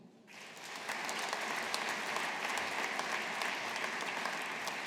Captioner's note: audience applauding